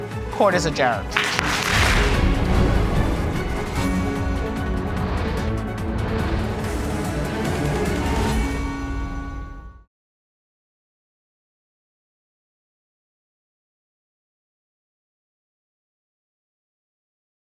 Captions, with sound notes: Court is adjourned. (AUDIENCE APPLAUDING) (THEME MUSIC PLAYING)